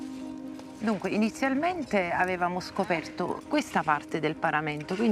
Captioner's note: woman speaking Italian